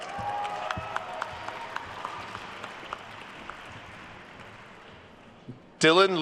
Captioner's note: attendees cheering and applauding